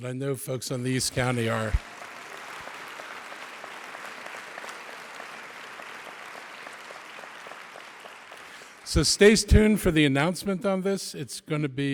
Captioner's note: applause